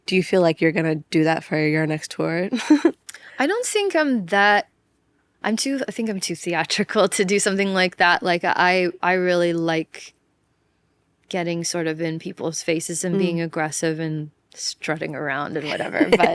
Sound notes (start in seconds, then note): 2.8 laughs